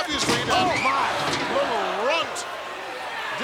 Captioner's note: commentators exclaim